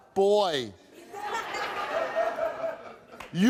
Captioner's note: audience laughing